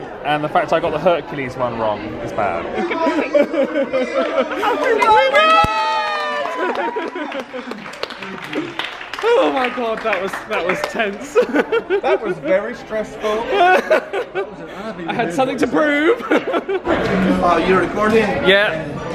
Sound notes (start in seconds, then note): 6.7 people cheer; 11.3 laughs